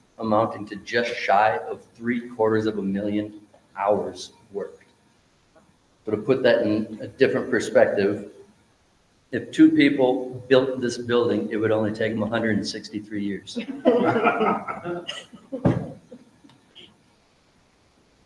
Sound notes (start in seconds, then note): 13.6 members laughing